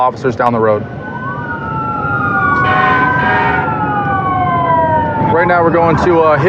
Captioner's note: emtmt s sirenens s blara